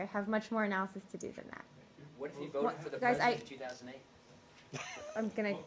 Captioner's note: laughter